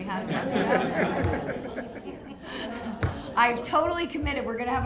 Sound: laughing

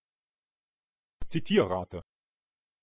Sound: fast Pronunciation

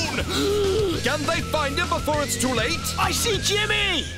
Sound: narrator Voice

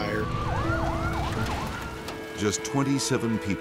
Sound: sirens blaring

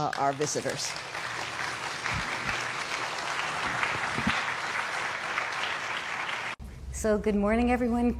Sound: applause

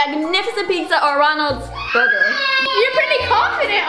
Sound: crying

